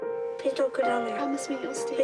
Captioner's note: echoes